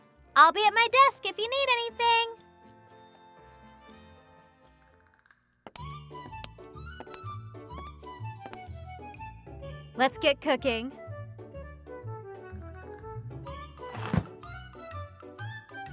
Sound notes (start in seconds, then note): none